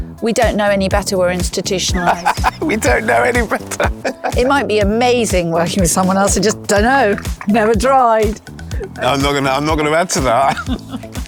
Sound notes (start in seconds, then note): 1.9 laughs